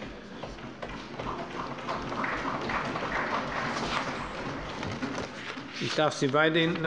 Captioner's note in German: Beifall